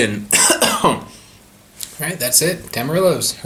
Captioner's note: coughing